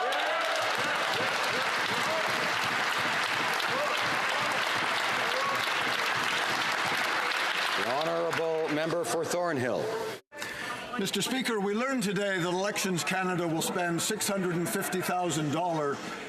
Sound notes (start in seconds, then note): 5.7 applause